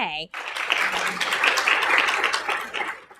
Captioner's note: applause